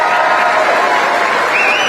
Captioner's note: applause